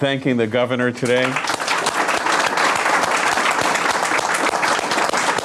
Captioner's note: audience clapping